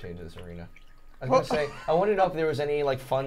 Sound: laughing

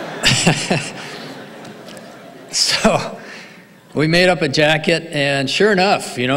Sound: laughs

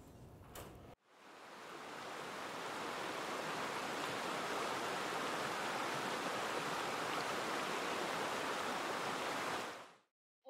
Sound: flowing creek water on video

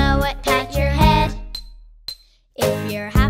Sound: soft clinking

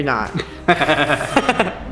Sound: laughing

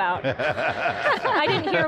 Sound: laughs

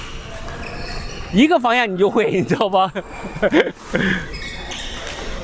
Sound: laughs

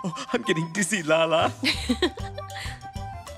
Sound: lah-lah giggles

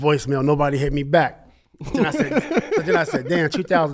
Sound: laughs

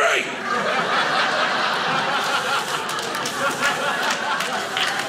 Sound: audience laughing

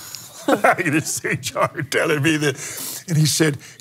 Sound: laughs

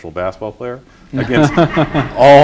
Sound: laughter

